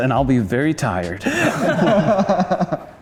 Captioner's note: laughter